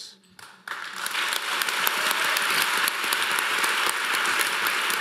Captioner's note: audience applauding